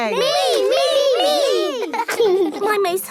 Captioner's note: laughing